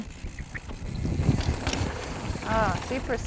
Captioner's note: bike zooming